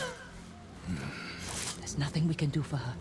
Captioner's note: groan